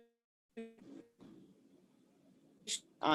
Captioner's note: audio skips